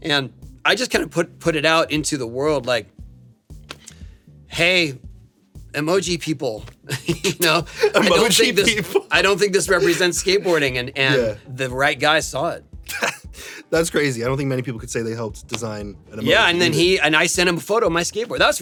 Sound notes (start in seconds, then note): 6.8 laughs